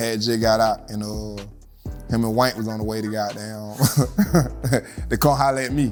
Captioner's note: laughs